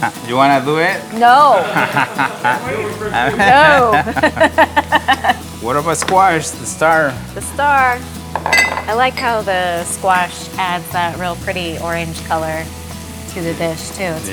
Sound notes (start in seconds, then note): 1.3 chuckles; 4.2 laughing